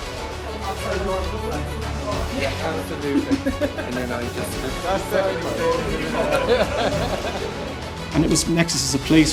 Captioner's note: lively conversations